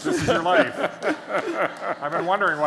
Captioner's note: laughter